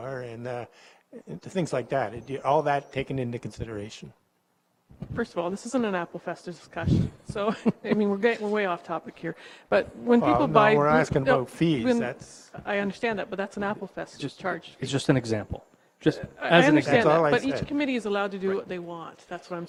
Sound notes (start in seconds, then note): 16.8 indistinct chatters